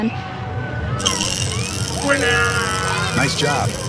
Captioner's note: mechanical voice